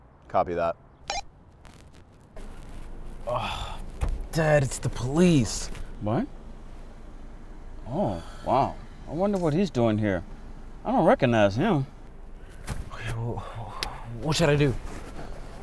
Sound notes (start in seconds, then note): 1.2 radio beeps; 3.2 son sighs; 13.3 son breathes heavily